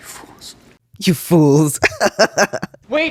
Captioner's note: laugh